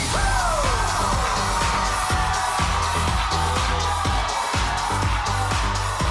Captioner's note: audience cheers; upbeat music